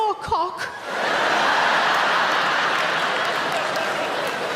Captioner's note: audience laughing